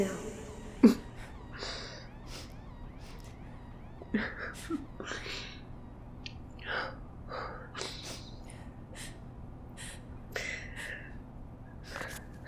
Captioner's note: Silence. Ailia softly sobs and laughs with relief